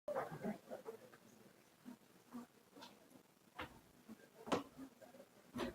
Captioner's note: audience shuffling and chattering